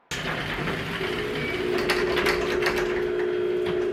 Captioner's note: door rumbling